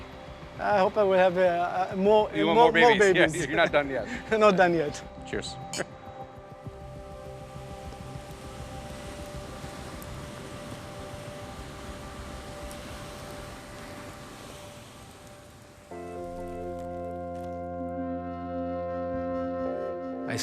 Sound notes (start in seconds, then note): 9.1 rolling waves; 15.9 dramatic music